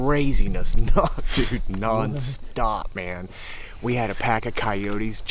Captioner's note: laughing